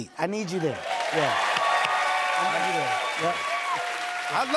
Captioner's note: cheers and applause